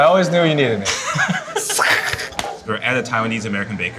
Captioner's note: both laugh